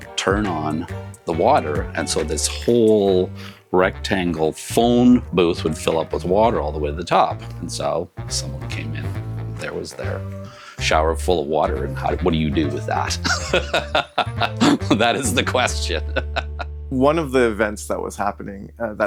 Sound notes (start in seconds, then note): 13.2 laughs